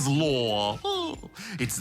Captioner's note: chuckles